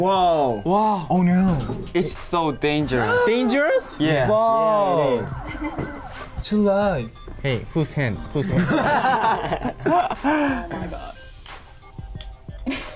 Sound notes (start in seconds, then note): 0.0 speaking in foreign language; 4.5 exclaims; 10.3 laughter